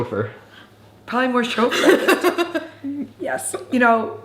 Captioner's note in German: lacht